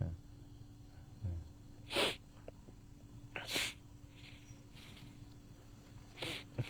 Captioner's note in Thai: เสียงสูดหายใจ